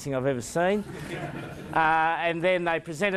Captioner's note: crowd laughs